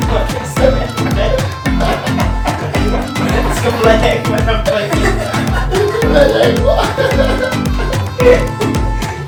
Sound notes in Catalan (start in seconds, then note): 4.6 riure; 7.2 més riure